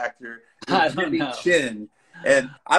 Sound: laughs

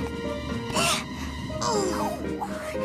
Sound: grunting

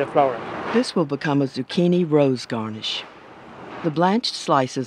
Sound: voiceover

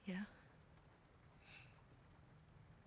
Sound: sigh

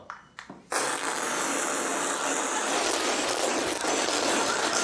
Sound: man spitting loudly

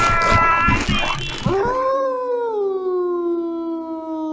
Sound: wolf howling

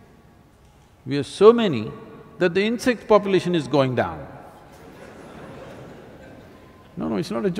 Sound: laughter

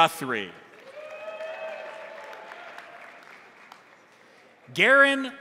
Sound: crowd applauding; crowd cheering

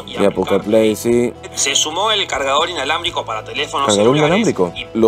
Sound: man speaking in Spanish

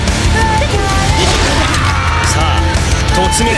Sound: fatal scream

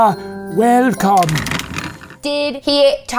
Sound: rattling

